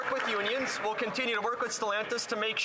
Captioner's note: some Applause